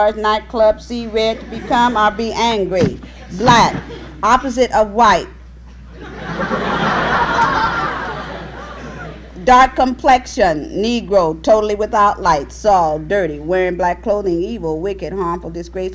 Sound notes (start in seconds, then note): 5.8 laughter